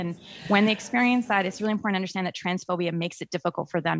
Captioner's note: in Unison